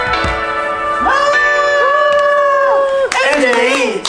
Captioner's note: cheering